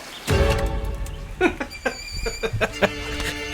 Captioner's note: laughter